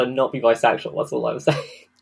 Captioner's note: laughs